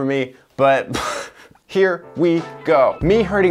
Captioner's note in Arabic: يضحك